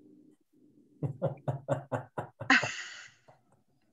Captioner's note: laughing